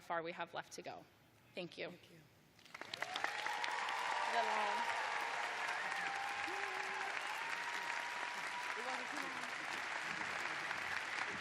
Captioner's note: cheers and applause